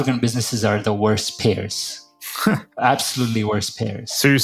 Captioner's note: laugh